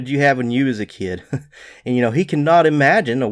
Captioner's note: chuckles